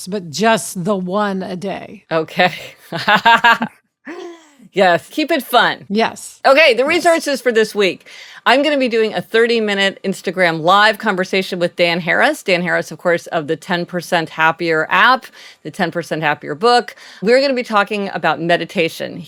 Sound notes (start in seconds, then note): 4.1 laughs